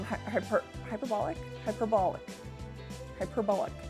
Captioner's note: struggles to say hyperbolic